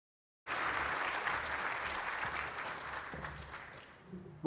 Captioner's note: audience applauding